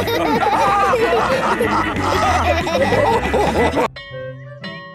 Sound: all laughing

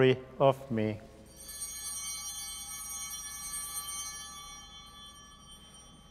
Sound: bells ringing

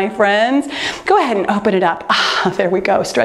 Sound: exhales

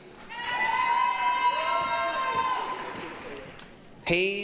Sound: applause, cheering

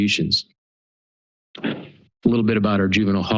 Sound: pause

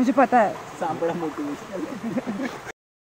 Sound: chuckles

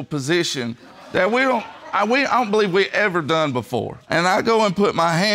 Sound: stammers

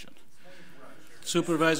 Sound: overlapping chattering

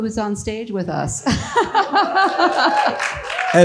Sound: laughs; audience applauds

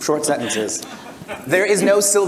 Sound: audience and panel laugh

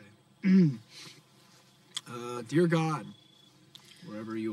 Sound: clears Throat

